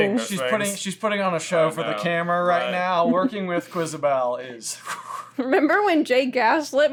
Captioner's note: exhales meaningfully